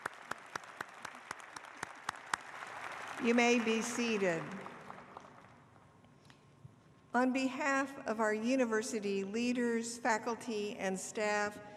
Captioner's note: applause